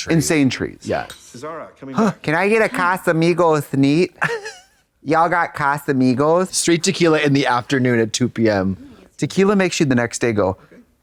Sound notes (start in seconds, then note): 4.2 Katya snickers